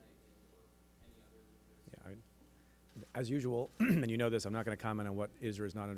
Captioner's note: clears throat